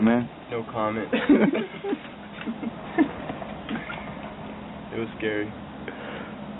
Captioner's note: soldiers laughing